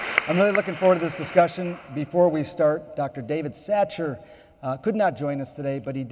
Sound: applause

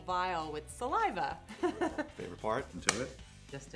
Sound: laughing nervously

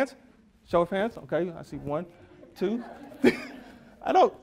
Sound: audience laughs

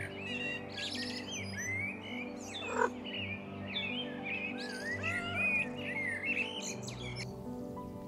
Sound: Honey Cat purrs and meows

